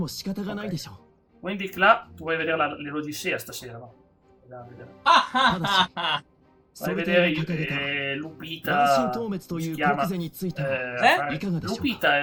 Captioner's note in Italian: risate